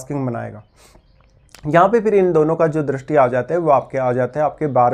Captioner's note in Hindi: नाक से की जाने वाली आवाज़